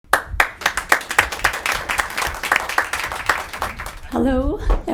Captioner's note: audience applauding